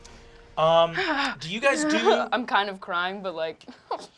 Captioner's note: sobbing